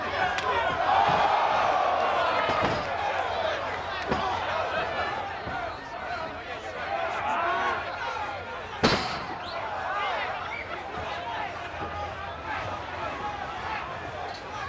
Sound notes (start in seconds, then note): 1.4 audience cheers